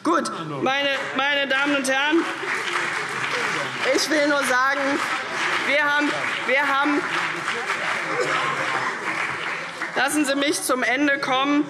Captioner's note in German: Beifall CDU und BÜNDNIS 90/DIE GRÜNEN